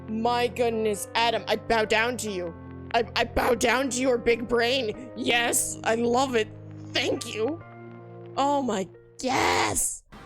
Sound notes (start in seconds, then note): none